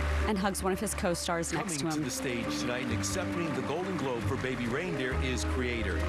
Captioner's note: applause